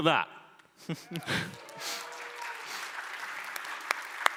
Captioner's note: applause